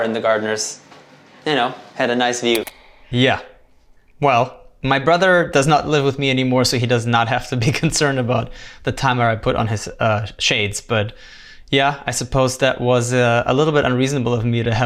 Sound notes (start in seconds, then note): 2.5 button clicking